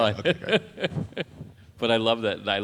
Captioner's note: laughs